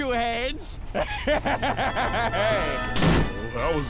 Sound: laughing

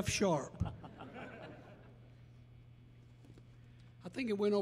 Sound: audience laughing

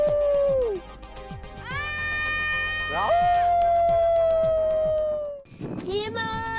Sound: screaming

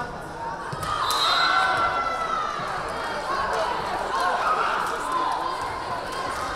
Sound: crowd cheering; whistle blaring

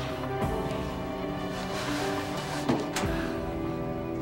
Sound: breathing heavily

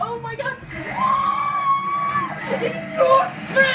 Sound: screaaams

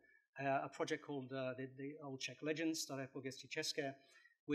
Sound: non-english

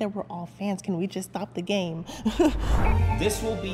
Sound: laughing; magical music

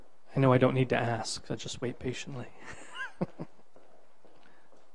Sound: laughs

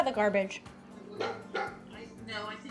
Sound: Waffle barks

